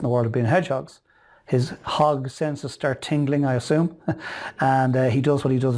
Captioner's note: chuckles